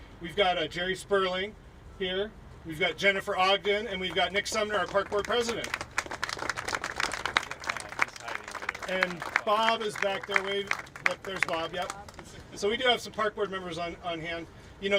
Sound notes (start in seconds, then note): 6.1 applauding